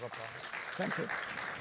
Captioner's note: audience applause